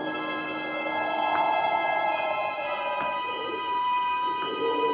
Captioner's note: wind blowing